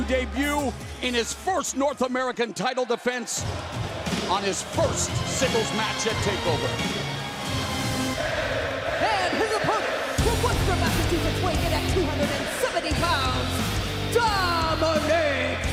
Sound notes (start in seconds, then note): 5.6 crowd cheering